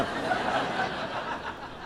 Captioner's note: laughter